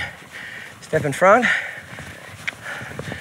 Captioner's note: mouth clicking